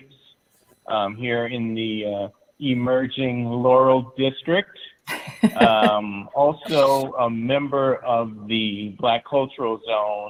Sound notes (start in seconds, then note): 5.1 laughing